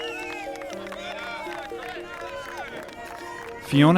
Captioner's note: speaking in a foreign language